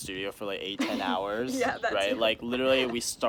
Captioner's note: laughs